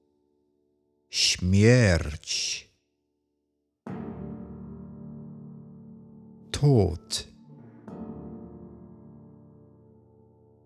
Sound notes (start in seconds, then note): 7.3 german